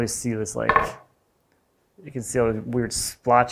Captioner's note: board thunking